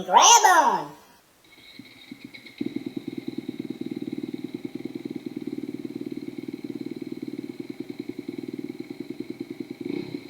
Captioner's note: dirt bike engine